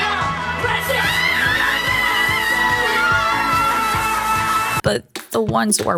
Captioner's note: screaming